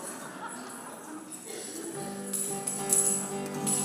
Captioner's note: congregation laughs